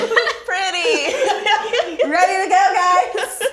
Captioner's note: laughs